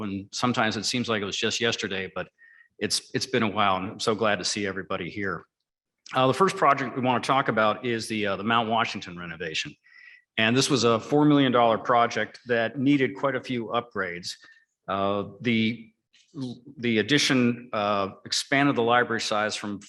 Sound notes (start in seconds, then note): none